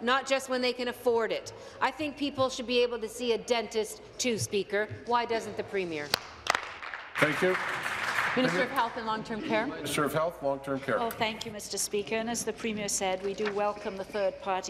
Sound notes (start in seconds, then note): 9.5 applause